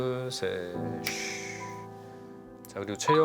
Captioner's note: shhh